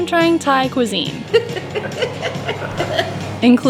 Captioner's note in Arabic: يضحكون بشكل هستيري